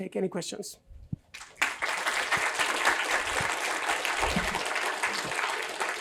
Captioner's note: applause